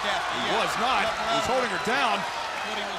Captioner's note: crowd cheering